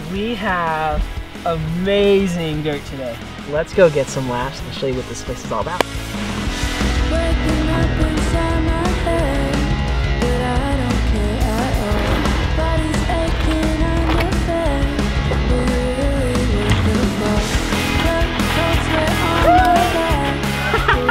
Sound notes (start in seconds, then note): 5.7 hands clap